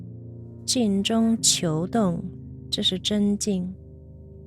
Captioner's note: speaking Chinese